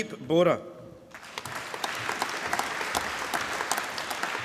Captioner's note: applause